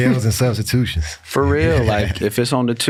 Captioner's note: laughs